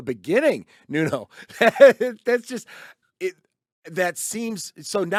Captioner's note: laughs